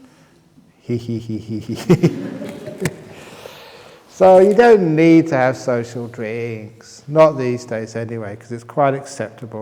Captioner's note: laughs